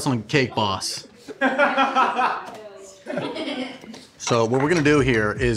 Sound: laughing

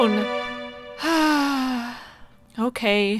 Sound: sigh

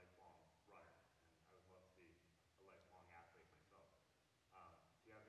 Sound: faintly speaking

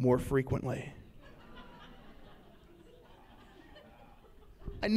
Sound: laughs

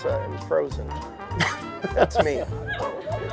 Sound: laughter

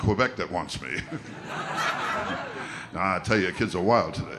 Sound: audience laughter

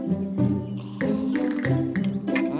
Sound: drinking

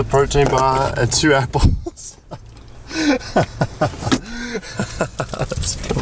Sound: laughing

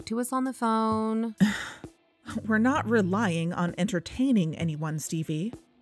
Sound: sigh

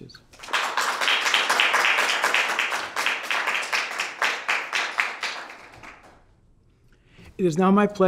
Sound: applause

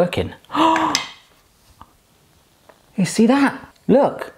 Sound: gasping

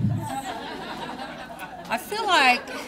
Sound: audience laughing

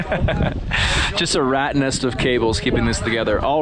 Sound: laughing

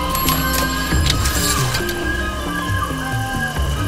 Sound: type-writer clicks

